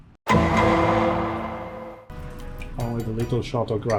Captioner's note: gavel bangs